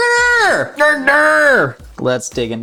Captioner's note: grunts